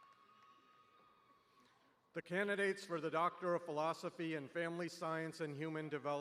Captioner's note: applause